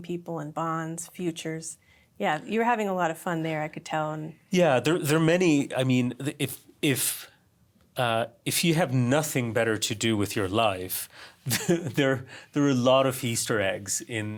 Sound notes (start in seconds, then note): 11.5 laughs